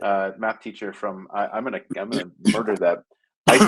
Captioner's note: coughing drowns out speaker